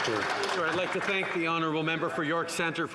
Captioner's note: some Applause